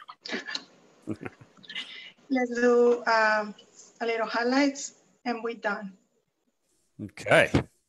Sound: laughs

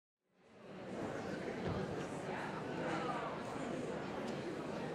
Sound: audience conversing

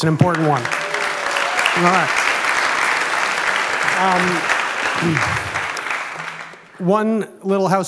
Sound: applause

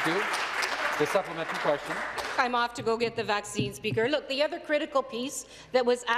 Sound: some Applause

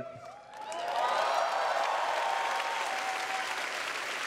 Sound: applause

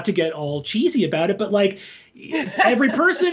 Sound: laughs

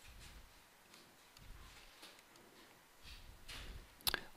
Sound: mouse clicking

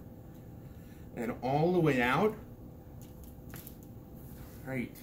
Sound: crack

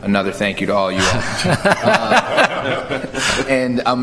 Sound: laughter

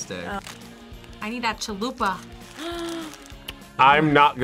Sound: React gasps

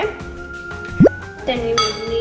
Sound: bloop noise

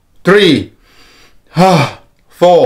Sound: inhale and exhales

